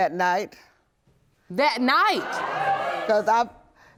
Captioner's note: audience gasping